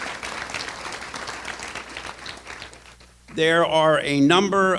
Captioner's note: applause